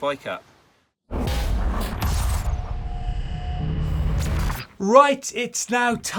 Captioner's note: electronic metallic zapping